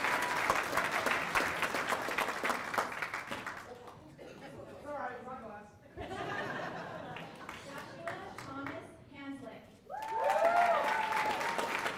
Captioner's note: cheers and applause